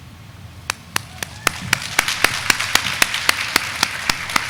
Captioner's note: audience clapping